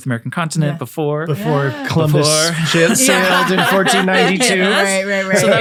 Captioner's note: all laughing